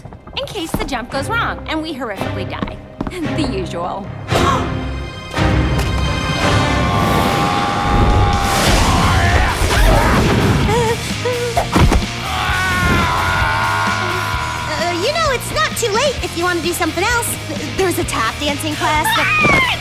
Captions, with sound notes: In case the jump goes wrong and we horrifically die. The usual. [gasps] [man screaming] [whimpers] [grunting] Eh, uh, you know, it's not too late if you want to do something else. -There's a tap dancing class that-- -[screams]